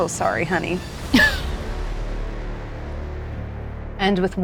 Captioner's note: laughs